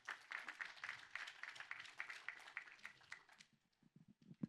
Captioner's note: audience applauds